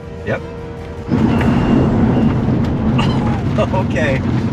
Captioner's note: car rumbling